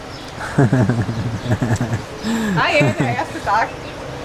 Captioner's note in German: lacht